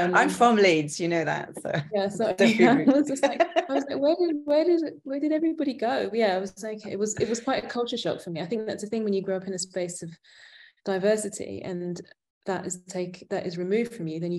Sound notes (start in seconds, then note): 2.4 laughing